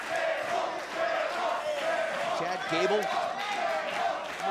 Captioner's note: crowd cheering